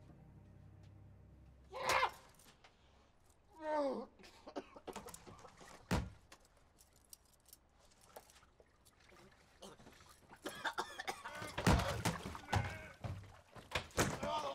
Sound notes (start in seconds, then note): 1.7 muffled screaming; 3.9 coughing; 11.2 grunting